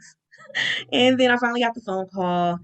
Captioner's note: laughing